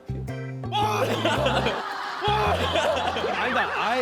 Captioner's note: screaming